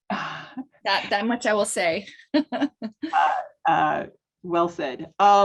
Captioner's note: laughs